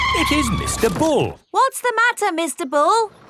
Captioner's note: tires screeching